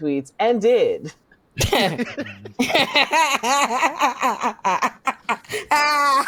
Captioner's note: laughter